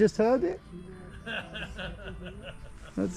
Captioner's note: laughs